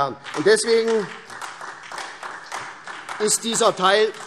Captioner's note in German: Beifall SPD